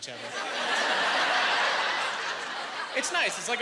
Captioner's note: laughing